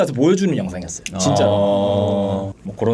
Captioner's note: exclaiming